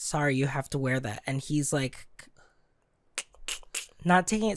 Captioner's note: clicking mouth